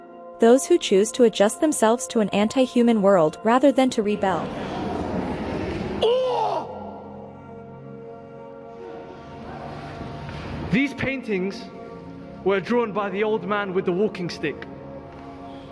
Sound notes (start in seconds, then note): 6.0 unusual scream